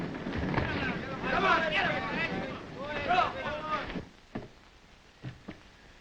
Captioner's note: crowd shouting